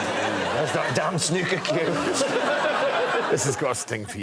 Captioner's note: audience groans